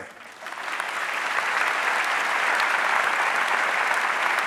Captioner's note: audience applauding